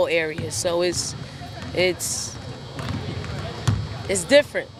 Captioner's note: basketballs thudding